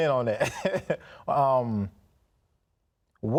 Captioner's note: laughs